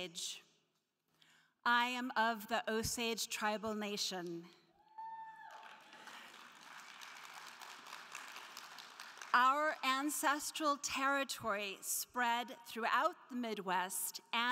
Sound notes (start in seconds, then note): 4.9 crowd cheering; 5.4 crowd clapping